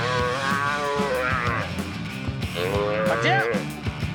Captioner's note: calf moos